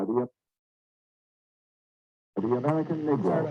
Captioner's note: audio stops